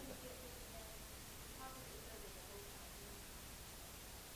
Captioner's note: voiceover